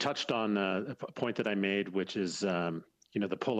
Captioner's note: speaking French